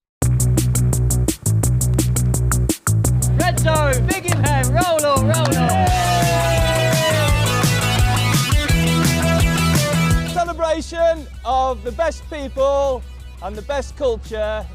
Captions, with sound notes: [upbeat music] Red Zone, big in here. Roll on, roll on. [audience cheering] [upbeat music] Celebration of the best people and the best culture